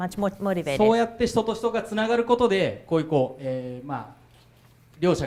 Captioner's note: speaking foreign language